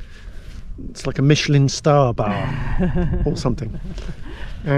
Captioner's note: laughs